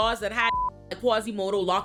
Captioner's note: beep